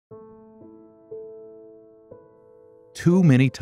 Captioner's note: male voice with slight southern accent